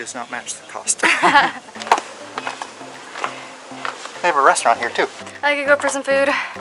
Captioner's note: laughter